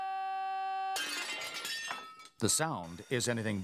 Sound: glass shatters

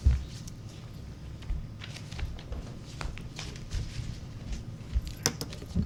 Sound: papers rustling

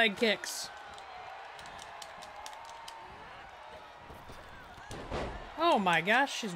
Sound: applause

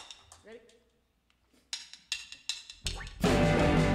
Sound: tick, tick, tick, tick of drumsticks

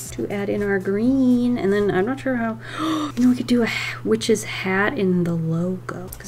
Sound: gasps

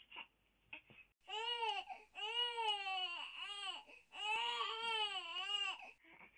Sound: baby Crying

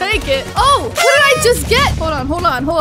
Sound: party horn blows

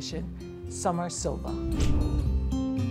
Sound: air swishes

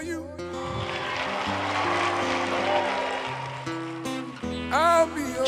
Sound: applause

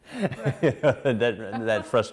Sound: laughing

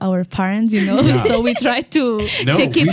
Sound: laughs

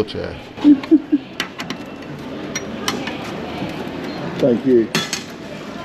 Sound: lock cover clangs

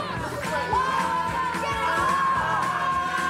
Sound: screaming

